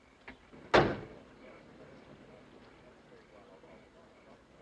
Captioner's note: townsmen chattering